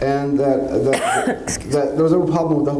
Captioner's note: coughs